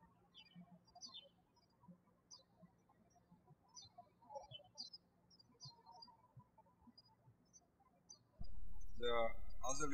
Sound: birds chirping

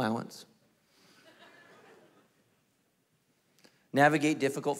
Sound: congregation laughing

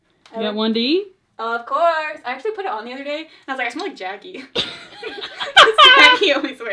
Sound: both laugh

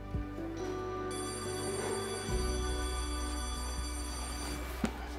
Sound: bell ringing

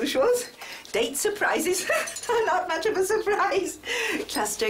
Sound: laughs

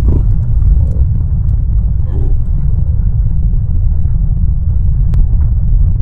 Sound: caribou calling stops but the rumbling continues

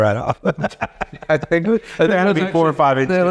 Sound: laughing

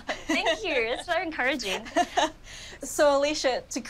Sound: laughs

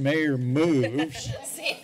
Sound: laughter

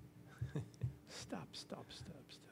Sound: laughter

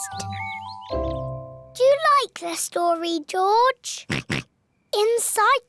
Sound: oinks

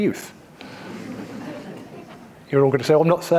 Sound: audience laughing

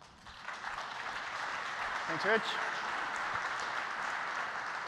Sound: applause

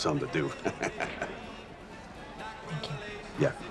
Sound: laughs

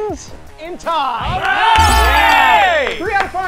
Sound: cheering

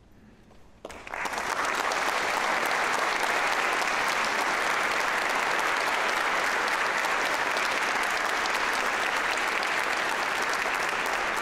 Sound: applause

